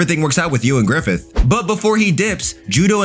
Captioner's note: air whooshing